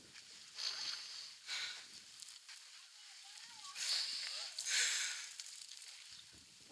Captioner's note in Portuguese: Respiração, suspiro emocionado